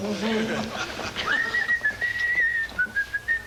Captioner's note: humming; whistling